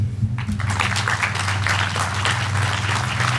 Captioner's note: applause